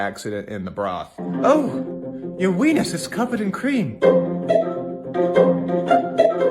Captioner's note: dainty, breathy